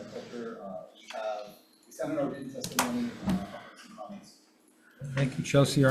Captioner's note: faintly speaking; faintly speaking